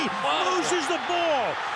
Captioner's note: cheering